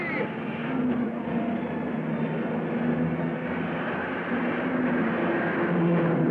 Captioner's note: cars revving; dramatic music